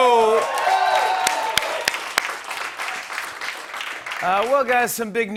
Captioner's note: cheers and applause